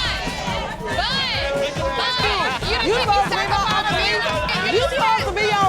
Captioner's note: bartenders screaming